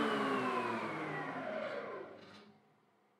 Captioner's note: whisring fades away